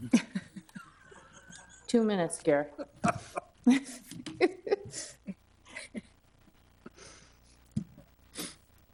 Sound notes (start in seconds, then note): 0.0 laughs